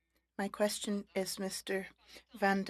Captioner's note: speaking French